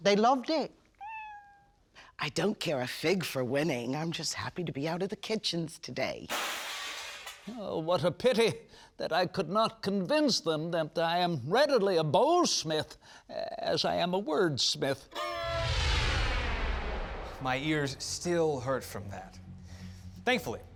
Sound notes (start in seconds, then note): 1.0 cat meows; 6.3 glass shattering